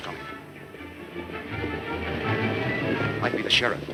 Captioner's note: fast hoof beats